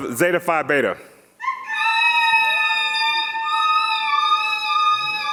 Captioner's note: women shrilling